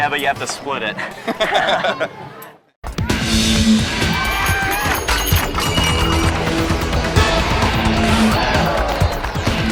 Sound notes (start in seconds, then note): 1.0 both laugh; 2.9 thrilling music